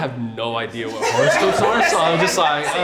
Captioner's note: everyone laughing